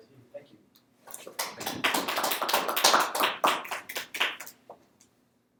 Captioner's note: applause